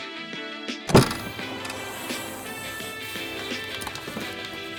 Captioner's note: car trunk opening